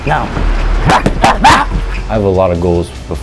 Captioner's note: grunting